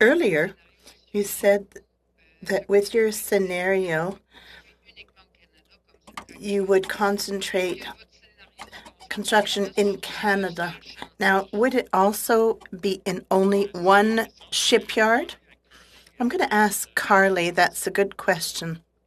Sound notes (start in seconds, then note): 3.2 speaking French